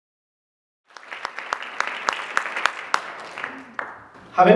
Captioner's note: applause